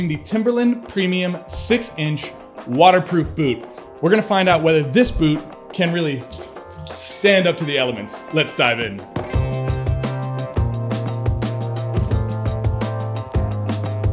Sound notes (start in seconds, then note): 6.3 water splashes; 8.9 rhythmic, bass thumping music